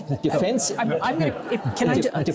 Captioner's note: crowd laughing